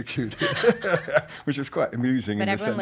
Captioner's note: laughs